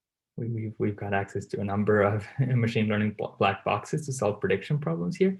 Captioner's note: laugh